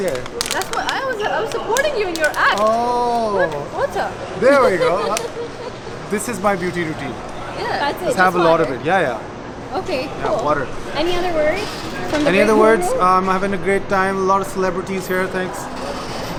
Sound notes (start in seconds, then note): 4.4 laughing